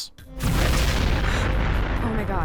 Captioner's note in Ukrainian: бу-бух